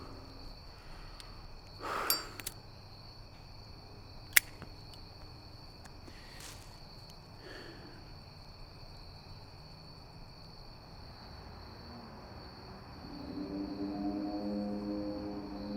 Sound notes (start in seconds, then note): 2.0 lighter rasps; 12.6 ominous music